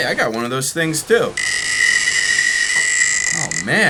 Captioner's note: buzzing